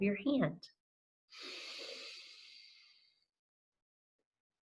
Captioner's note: inhales